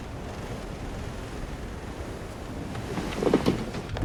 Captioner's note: none